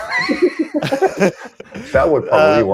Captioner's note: laughter